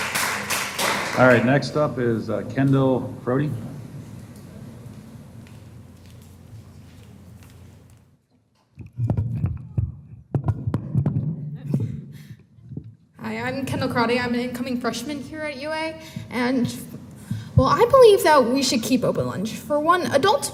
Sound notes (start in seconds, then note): 8.8 microphone noise